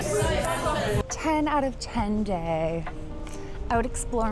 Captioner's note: lips smacking